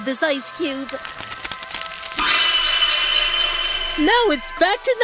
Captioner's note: cracking, shining noises as the sun reverts to normal